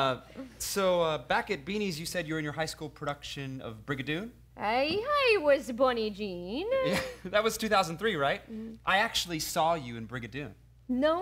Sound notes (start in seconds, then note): 4.5 scottish Accent